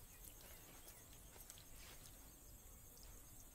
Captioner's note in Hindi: none